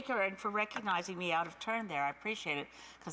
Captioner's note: speaking French